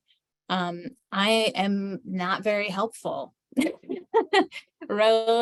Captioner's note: chuckles